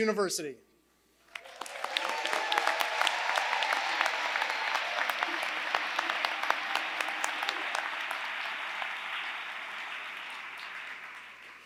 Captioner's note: applause